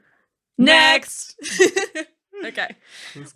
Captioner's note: laughing